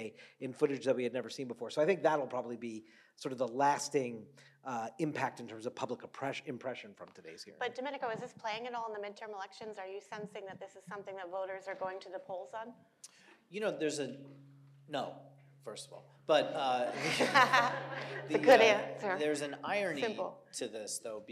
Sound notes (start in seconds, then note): 16.5 panelists and audience laughing